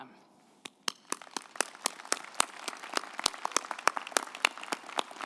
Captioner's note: group applauding